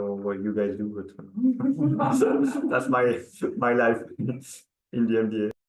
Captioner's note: participants laughing